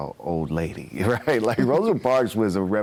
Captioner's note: both chuckling